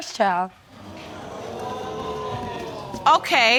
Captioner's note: audience groans